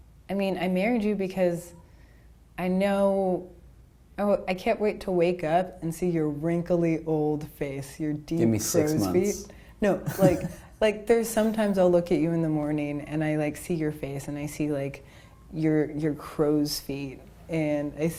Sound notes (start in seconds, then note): 10.0 laughing